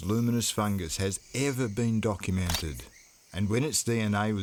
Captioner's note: shutter clicks